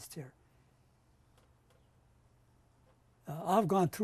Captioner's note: pauses for 3 seconds